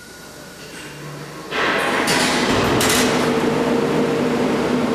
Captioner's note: pantograph raises